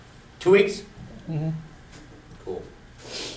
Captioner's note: voiceover